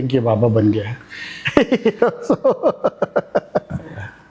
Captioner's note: laugh